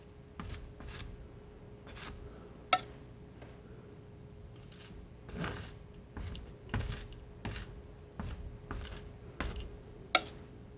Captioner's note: tapping